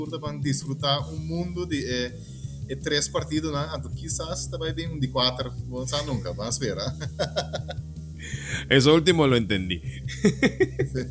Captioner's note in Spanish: risas